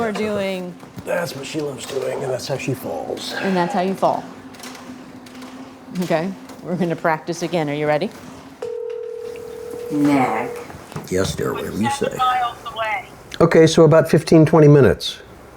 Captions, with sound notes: - You are doing- - That's what she loves doing and that's how she falls. - And that's how you fall. Okay, we're gonna practice again. Are you ready? (phone line ringing) - Nag. - Yes, dear, whatever you say. - Seven miles away. - Okay, so about 15, 20 minutes.